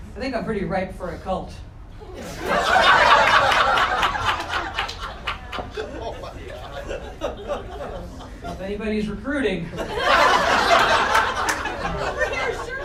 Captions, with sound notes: I think I'm pretty ripe for a cult. (crowd laughter) (audience clapping) So if anybody's recruiting, (laughter continues)